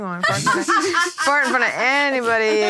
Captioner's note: laughing